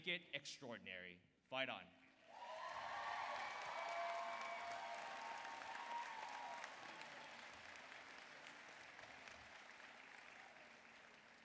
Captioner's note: applause